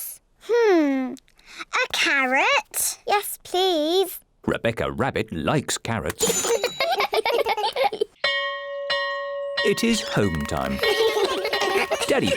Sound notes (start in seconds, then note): 6.3 all giggle; 8.2 bell rings; 10.3 all giggle